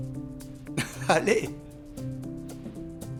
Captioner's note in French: rires